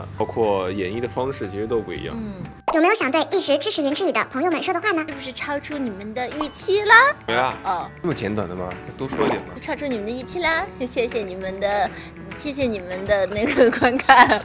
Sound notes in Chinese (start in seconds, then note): 9.0 撒娇; 12.0 哈哈哈哈哈